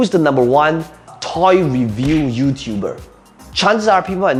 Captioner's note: fist punching